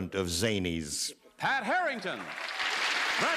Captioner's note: applause